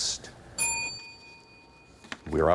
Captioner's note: bell dings